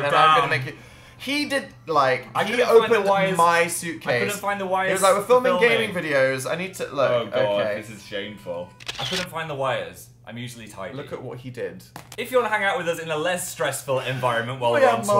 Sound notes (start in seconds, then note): 8.8 sound of a picture being taken; 11.6 laughs quietly